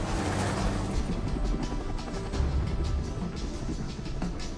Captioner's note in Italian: rumore di elicottero